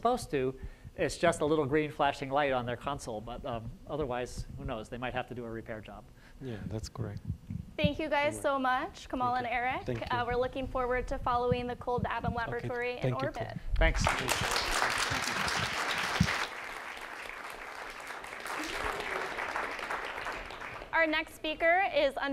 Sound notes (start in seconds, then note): 15.9 applause